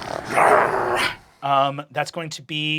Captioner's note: snarling